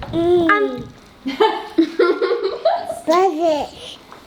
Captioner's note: laughter